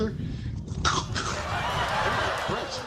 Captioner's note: coughs